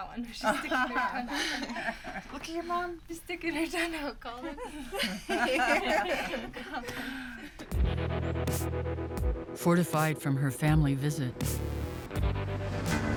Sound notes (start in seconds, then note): 4.6 all laugh